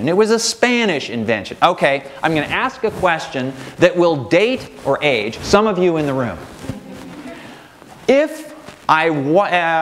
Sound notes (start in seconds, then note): 6.7 audience laughing